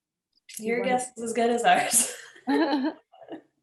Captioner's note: laughter